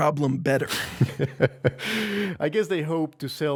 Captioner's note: laughing